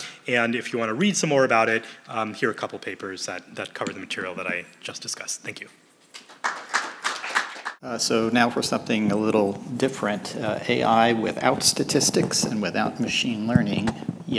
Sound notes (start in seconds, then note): 6.1 applause